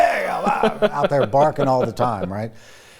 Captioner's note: grunts; laughs